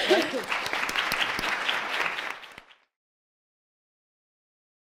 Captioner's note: audience clapping